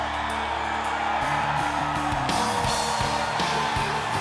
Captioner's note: laugh